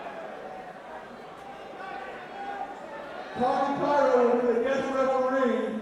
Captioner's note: crowd chatter